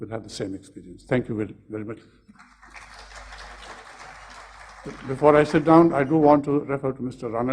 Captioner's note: applause